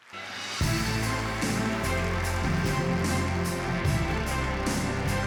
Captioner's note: applause